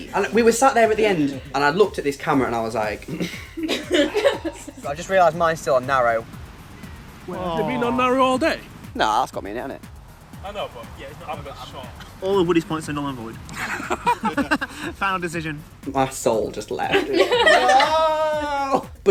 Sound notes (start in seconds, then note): 3.4 sigh